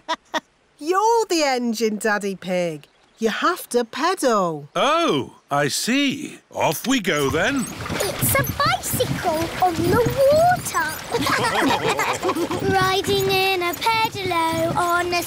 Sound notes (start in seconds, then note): 0.0 laughs; 11.1 all laughing